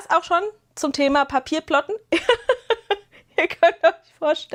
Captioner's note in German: gelächter